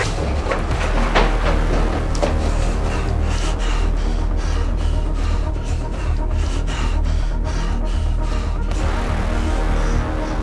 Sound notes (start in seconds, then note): 2.4 heavy breathing